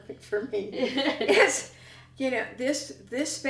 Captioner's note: laughter